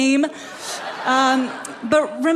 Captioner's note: people laughing